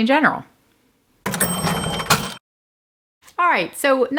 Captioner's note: cash register ringing up sale